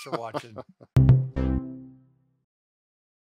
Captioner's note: laughter